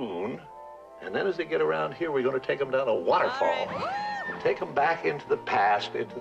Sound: screams

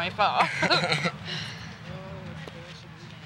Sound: laughing

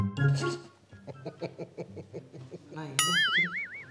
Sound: laughing with no meaning but to scare

